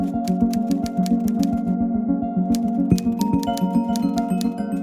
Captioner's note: typewriter clacking